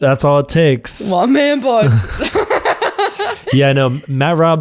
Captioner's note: laughs